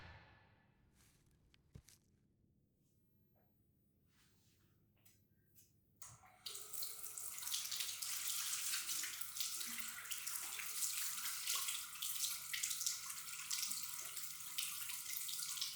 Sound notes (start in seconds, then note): 6.2 water trickling